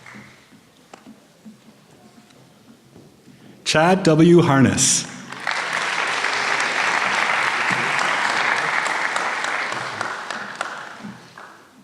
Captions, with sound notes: Chad W. Harness. (applause)